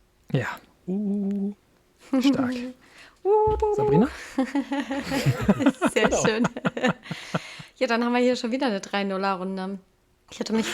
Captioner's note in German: gelächter